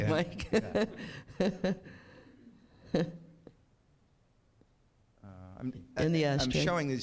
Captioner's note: chuckles